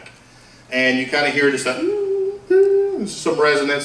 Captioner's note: feedback noises